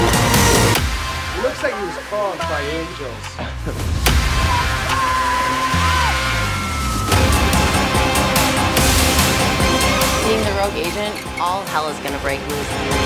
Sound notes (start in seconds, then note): 0.2 intense music; 3.5 intense music; 4.3 contestants yelling; 7.8 intense music